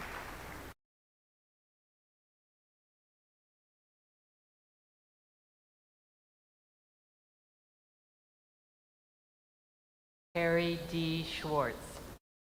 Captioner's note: names being called